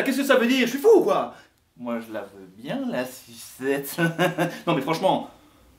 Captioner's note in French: rire malsain